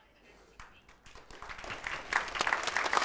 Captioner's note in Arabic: تصفيق